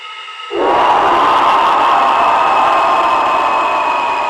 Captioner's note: dramatic music; monster shrieks